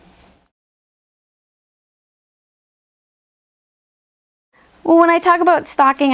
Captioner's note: silence